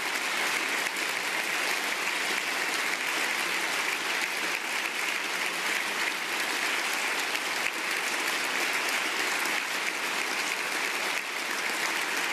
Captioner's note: applause